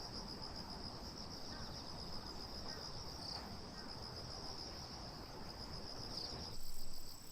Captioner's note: bird